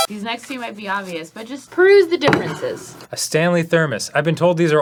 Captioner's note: none